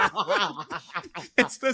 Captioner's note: laughter